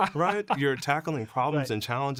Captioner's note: laughing